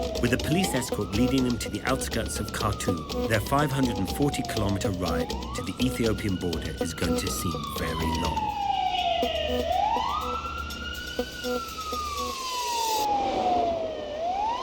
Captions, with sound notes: With a police escort leading them to the outskirts of Khartoum, Their 540 kilometer ride to the Ethiopian border, it's going to seem very long. (Police Siren and car horns)